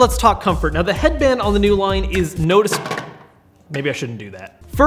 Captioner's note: headphones thud